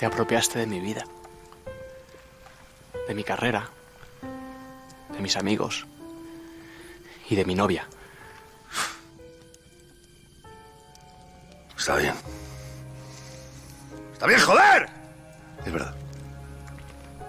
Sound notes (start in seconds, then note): 8.6 snort; 14.1 yelling